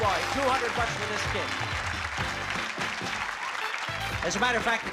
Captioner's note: applause